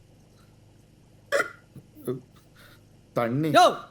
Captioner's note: loud hiccup